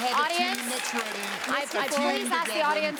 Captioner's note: applause